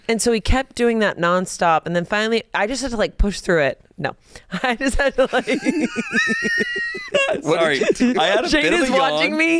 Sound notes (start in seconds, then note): 5.2 hosts laughing